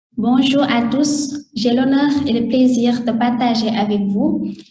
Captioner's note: speaking in French